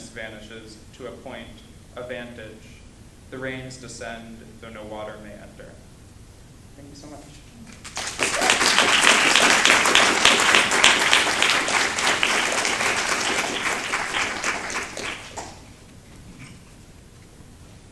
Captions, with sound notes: vanishes to a point, a vantage. The rains descend, though no water may enter. Thank you so much. [APPLAUSE]